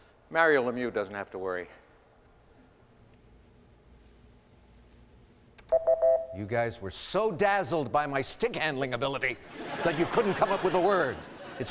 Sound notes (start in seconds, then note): 5.6 beeps